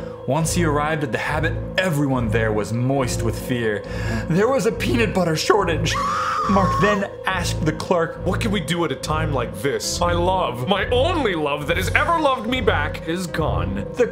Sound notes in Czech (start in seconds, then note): 3.9 nádech; 5.9 křik